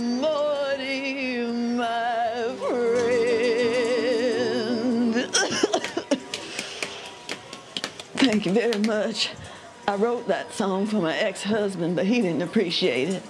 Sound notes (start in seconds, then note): 5.3 coughs, uses inhaler; 5.7 a few claps